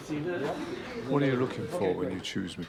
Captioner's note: voiceover